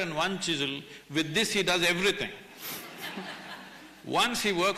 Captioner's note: laughter